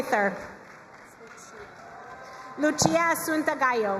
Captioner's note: crowd cheering and applauding